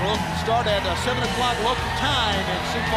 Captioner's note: crowd cheering